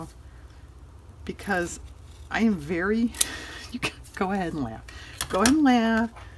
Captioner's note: laughs